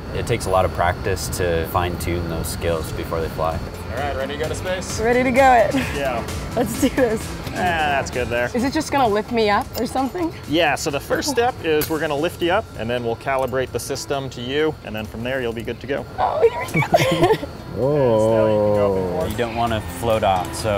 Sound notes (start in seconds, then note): 5.9 upbeat music; 17.2 voice squeaking